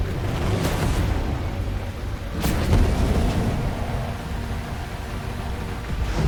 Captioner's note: dramatic music; lasers blasting